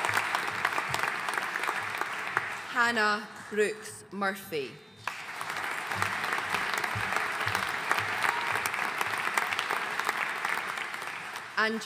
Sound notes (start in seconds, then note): 5.0 audience applauding